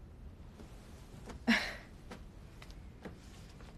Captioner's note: scoffing